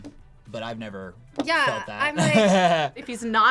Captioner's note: laughs